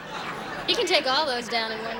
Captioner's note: laughter